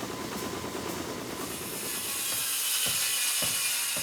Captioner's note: buzzsaw wizzing